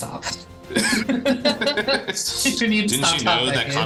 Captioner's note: both laughing